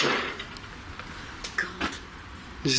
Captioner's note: bangs